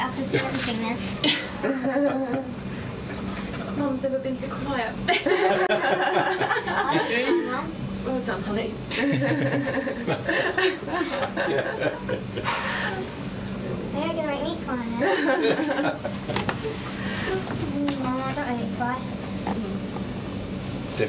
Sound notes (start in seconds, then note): 1.2 all laughing; 5.1 all laughing; 9.0 doctors laughing; 15.0 all laughing